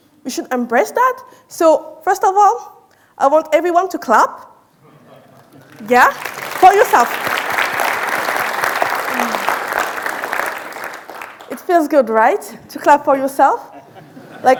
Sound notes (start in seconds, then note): 7.3 audience applauding